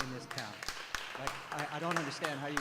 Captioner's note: crowd applauds